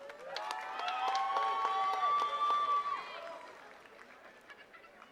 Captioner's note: attendees cheering and clapping